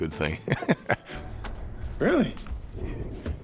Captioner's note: Chris chuckles